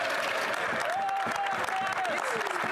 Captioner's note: speaking french